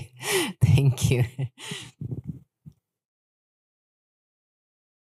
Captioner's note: chuckles